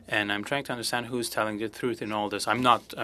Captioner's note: speaking french